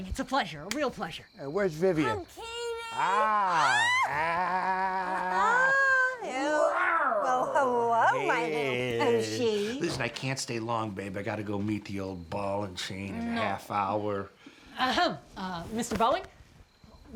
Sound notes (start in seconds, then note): 3.1 vivien gasps; 6.4 %*# growling